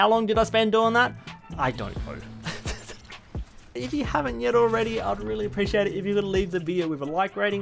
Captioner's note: laughs